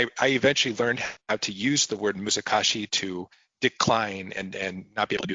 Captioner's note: speaking japanese